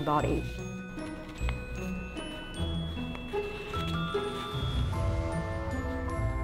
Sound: classical music; fabric rustling

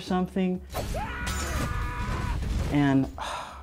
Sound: character screams

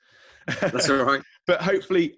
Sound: laughing

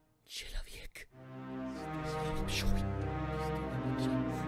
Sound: ominous Russian whispering

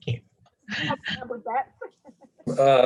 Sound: chuckling

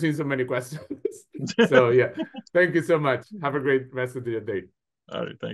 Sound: laughs

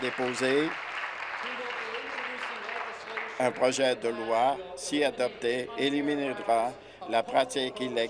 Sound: applause

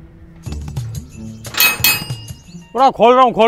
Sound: knocking on the gate

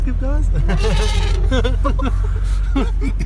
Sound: complains in elephant

